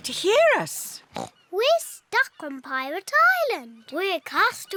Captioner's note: oinks